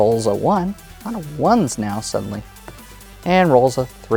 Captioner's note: dice rolling